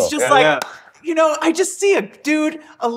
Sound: claps

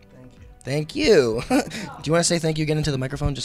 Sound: chuckles

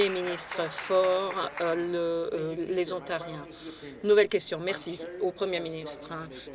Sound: applause

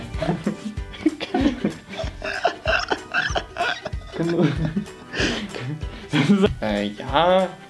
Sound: more laughter

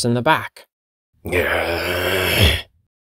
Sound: growling

